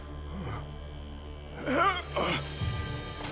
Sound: grunting

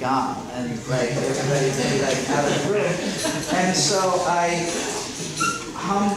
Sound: students laughing

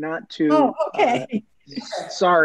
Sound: chuckles

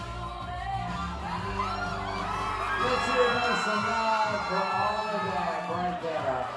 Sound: crowd cheering and screaming

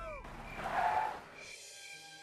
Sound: tires skidding

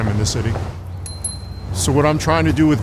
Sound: sound of a bike bell

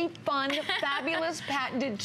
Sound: laughter

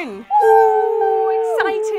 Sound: girls whoop

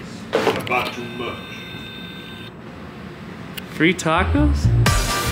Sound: phone beeps

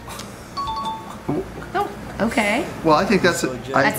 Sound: bell rings

